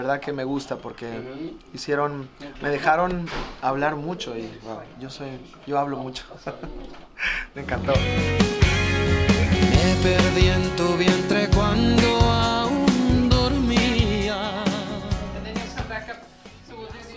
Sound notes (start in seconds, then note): 6.2 laugh